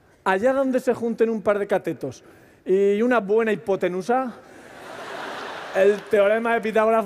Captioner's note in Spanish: Risas